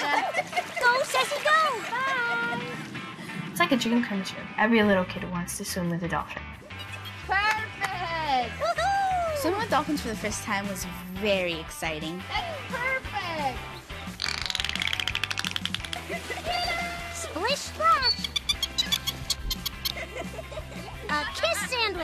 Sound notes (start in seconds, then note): 14.9 dolphin emits rapid clicking; 19.3 dolphin chirping